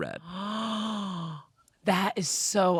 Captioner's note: gasps